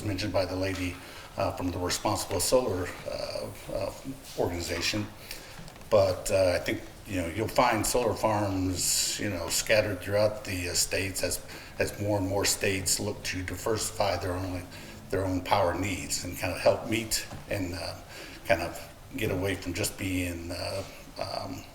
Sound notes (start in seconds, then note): none